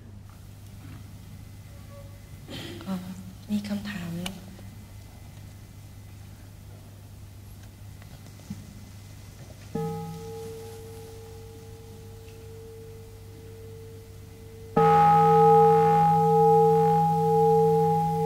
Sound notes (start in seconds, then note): 13.1 bell rings